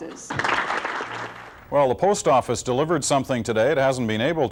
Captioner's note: applause